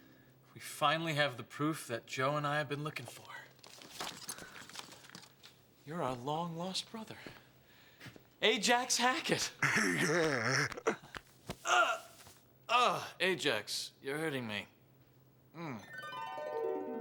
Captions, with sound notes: We finally have the proof that Joe and I have been looking for. You're our long-lost brother. Ajax Hackett. (guffawing) (Brian grunting) Ajax, you're hurting me. Mmm..